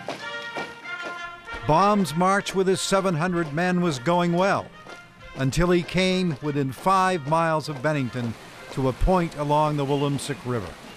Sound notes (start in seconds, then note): 0.1 lively trumpet music; 4.6 soldiers marching